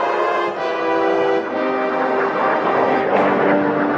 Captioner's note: airplane roaring